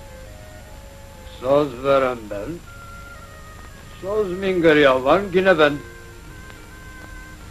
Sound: speaking in Turkish

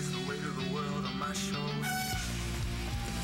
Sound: horn toots

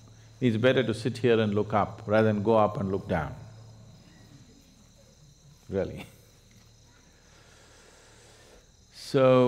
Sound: laughs

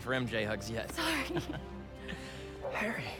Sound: laughs

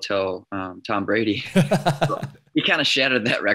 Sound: laughs

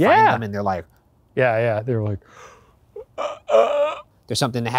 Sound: grunting

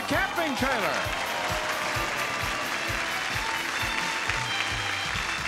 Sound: audience clapping

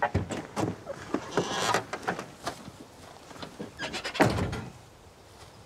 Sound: car doors creaking

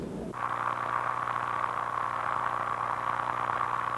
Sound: radio static

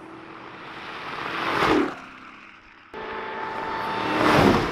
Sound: car engine roaring

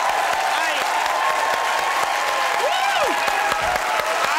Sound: audience cheers

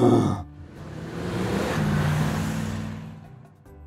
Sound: bear roar; car accelerating sound

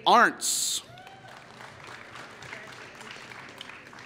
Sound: applause

